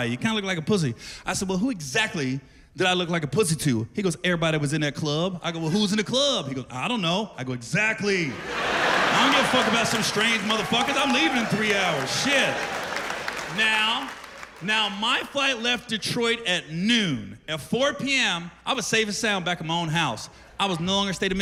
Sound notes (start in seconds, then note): 8.3 laughter